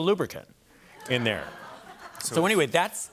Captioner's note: laughter